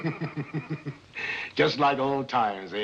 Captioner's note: Moriarity chuckles